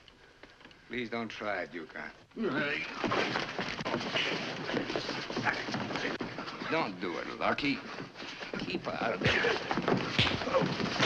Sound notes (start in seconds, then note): 2.3 scuffling; 5.1 scuffling